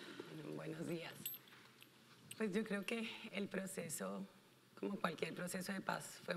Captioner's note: speaking in foreign language